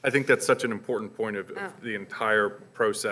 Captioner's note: voiceover